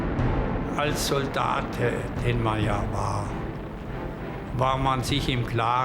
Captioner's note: dramatic music; plane engines roaring; Hans speaking German